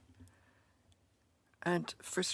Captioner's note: speaking in French